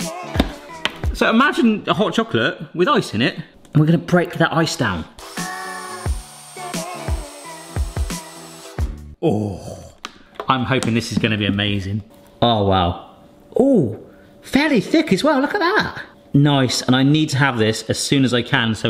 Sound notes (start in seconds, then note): 5.2 mixer whirring; 5.6 cheerful music resumes